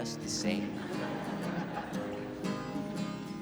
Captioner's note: crowd laughing